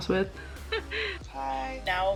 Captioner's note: laugh